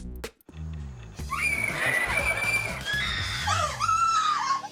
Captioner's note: woman screaming